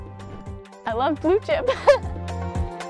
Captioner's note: laughter